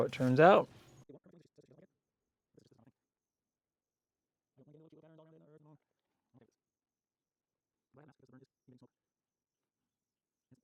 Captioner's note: silence